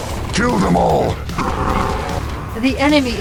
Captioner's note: good boi noises